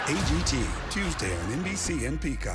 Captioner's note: cheering